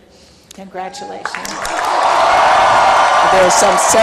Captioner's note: applause